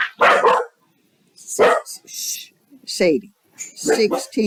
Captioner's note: dog barking